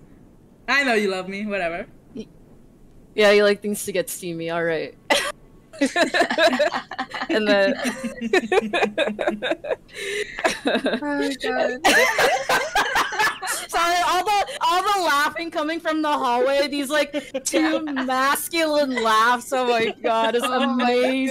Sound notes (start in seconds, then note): 10.5 laughter